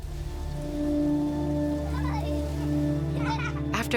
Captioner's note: children playing